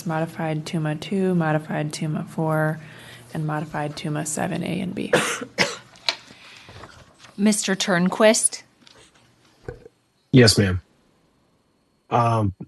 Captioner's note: cough